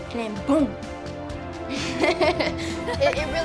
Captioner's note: laughs